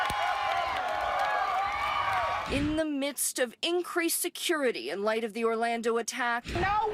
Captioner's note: cheers and applause